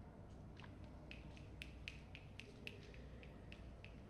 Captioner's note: snapping